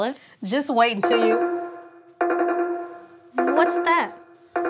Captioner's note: beeping